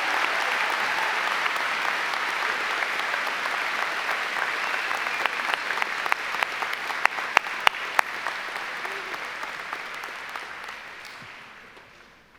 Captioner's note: applause